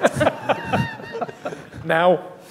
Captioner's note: laughing